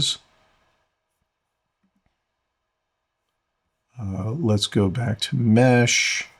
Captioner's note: silence